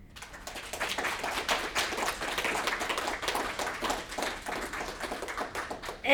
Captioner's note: applause